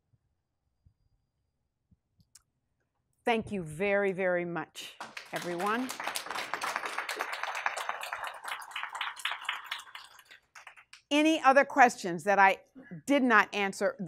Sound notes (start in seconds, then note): 5.0 class applauds